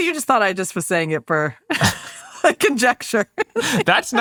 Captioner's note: laughs